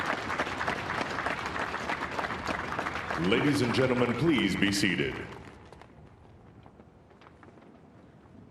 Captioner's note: applause